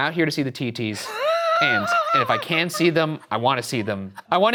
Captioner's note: Shane laughing